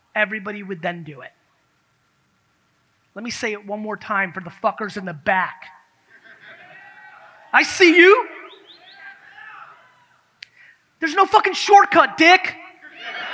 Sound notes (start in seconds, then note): 6.3 audience cheers